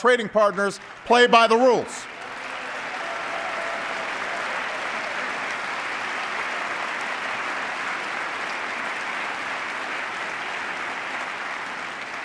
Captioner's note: applause